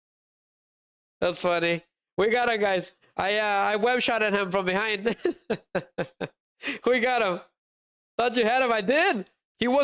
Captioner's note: laughter